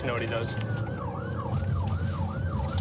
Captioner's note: siren blaring